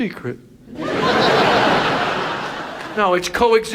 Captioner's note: audience laughs